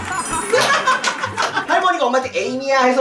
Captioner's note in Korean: ㅋㅋㅋ박장대소ㅋㅋㅋㅋ